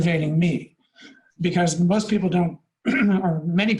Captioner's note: clears throat